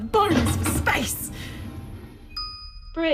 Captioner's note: three BEEPS as the lift approaches the Bridge